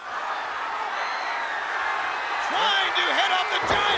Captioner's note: audience cheering; body thudding